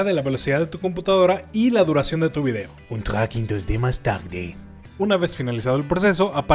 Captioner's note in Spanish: acento francés xD